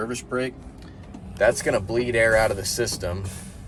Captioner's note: air whooshing